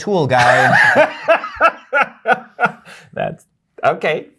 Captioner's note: laughter